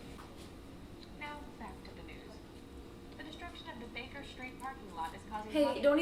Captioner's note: SACU Report continues playing in background